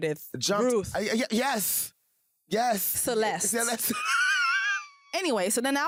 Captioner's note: laughs